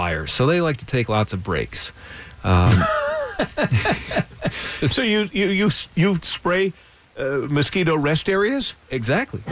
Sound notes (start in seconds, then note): 2.4 laughing